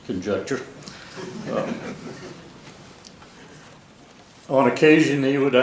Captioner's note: laugh